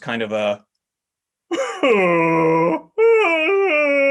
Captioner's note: deep wailing